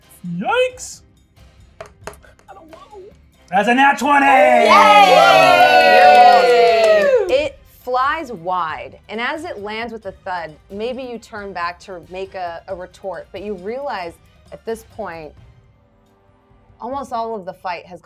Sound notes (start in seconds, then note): 3.6 gamers cheering